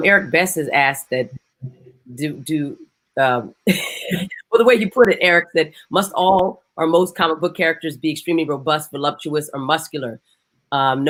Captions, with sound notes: - Eric Best has asked that do, (chuckles) well, the way you put it Eric, must all or most comic book characters be extremely robust, voluptuous, or muscular?